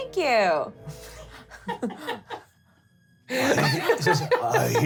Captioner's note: laughing